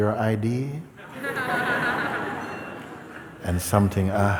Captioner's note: laughter